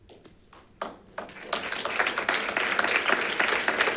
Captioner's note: audience claps